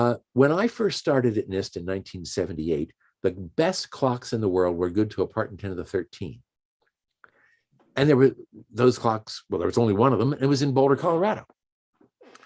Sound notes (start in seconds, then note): none